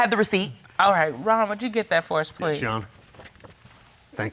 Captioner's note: none